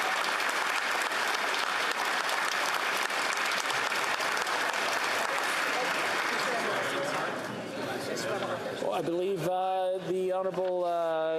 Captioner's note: applause